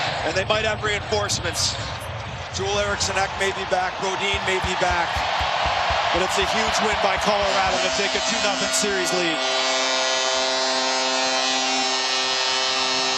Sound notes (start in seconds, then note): 11.1 goal horn